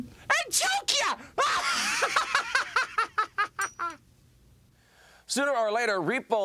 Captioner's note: laugh